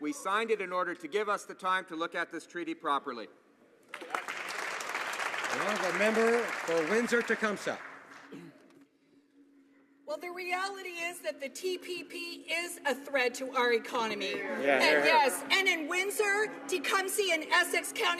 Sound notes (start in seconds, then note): 8.0 some Applause